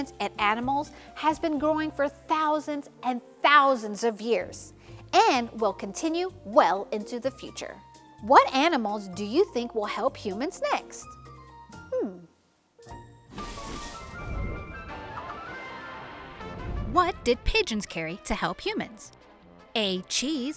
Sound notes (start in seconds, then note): 12.8 playful upbeat music continues; 13.3 transition whooshes